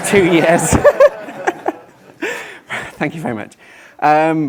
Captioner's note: laughing